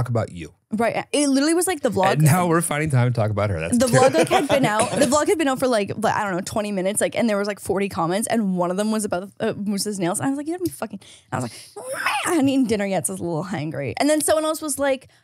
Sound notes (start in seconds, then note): 3.8 laughs; 11.8 screeches